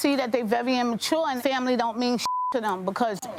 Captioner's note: beep